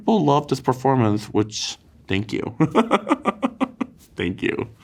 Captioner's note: laughs